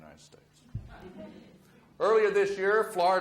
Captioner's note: audience murmurs